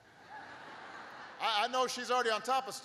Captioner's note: laughter